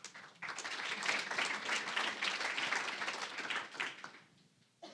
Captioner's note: applause